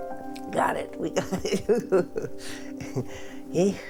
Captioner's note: chuckles